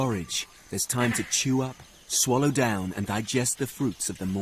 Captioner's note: monkeys barking